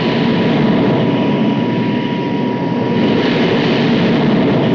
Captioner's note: plane whirring